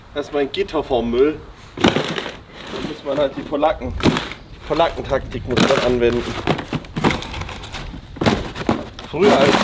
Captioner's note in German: schnauben